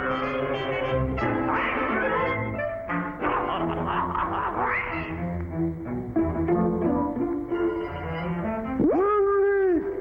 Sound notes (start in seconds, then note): 1.4 squawk; 3.2 squawking